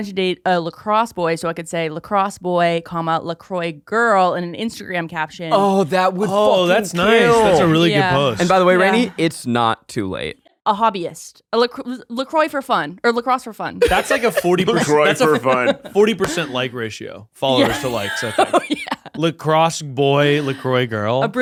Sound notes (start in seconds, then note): 13.8 laughing